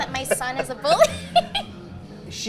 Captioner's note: both laughing